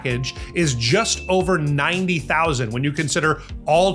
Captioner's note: bell dings